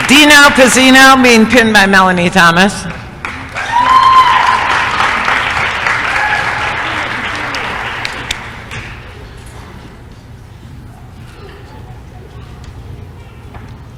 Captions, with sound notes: DINO PIZZINO being pinned by Melanie Thomas [applause & cheering]